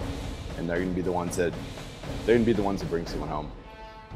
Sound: voiceover

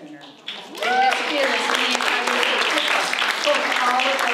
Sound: applause

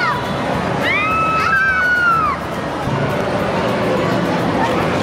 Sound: screaming

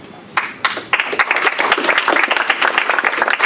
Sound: applause

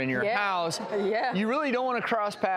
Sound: audience mumbling in agreement

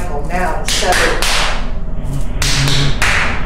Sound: clapping

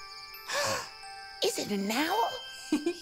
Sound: gasping; giggling

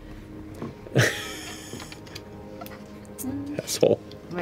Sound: laughter

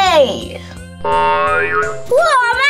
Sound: futuristic boinging

